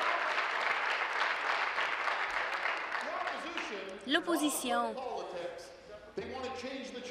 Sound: some Applause

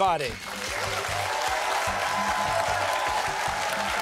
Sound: cheers and applause

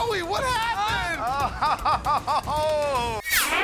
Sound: laughs

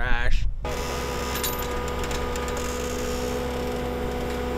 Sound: engine rumbling

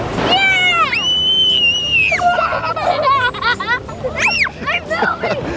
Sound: children scream and laugh

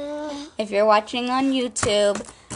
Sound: grunts

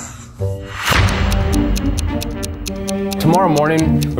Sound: clock ticking

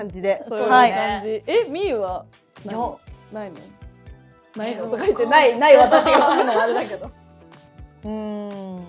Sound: laughs

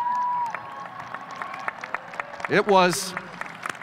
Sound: audience cheers

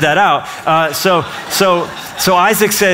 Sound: laughter

